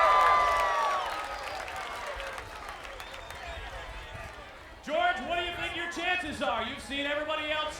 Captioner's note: applause